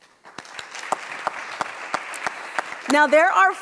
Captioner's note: audience applauds